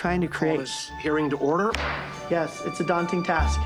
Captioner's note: gavel bangs